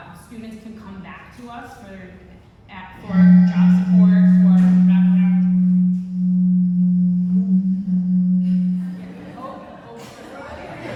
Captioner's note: electronic noise background, audience laughs